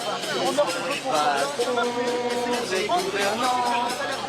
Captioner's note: French spoken audio